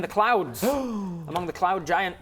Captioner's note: gasp